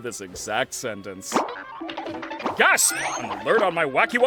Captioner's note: goofy cartoon sound effects playing